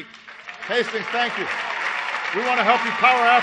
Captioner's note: applause